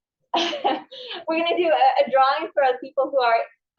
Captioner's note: laughs